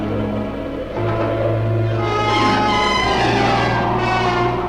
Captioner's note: wind blowing swiftly